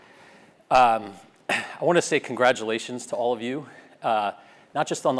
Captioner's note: cough